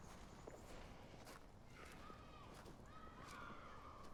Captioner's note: children playing